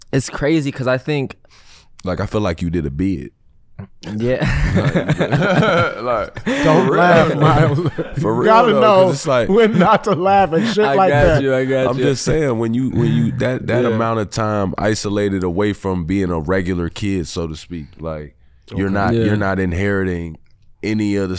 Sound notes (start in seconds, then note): 4.2 all laughing